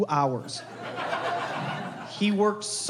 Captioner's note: crowd laughing